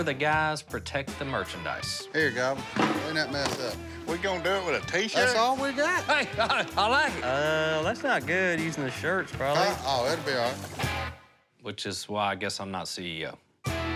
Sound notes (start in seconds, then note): 5.0 laughs